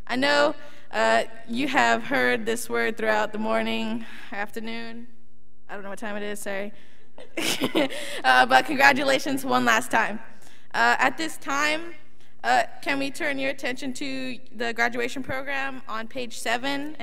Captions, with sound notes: I know you have heard this word throughout the morning, afternoon. I don't know what time it is, sorry(laughs). But congratulations one last time. At this time, can we turn your attention to the graduation program on page seven